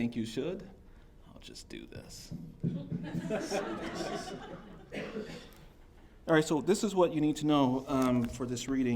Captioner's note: taps microphone